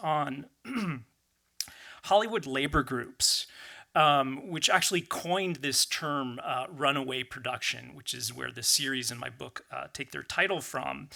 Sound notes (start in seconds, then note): 0.6 clears throat